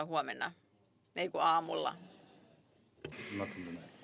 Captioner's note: laughter